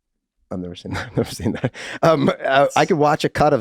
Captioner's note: Rob laughing amusingly